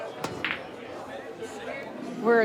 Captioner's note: pool balls crack